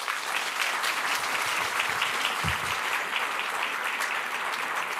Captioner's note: applause